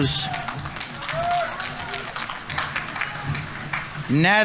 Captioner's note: audience applauding; audience members cheering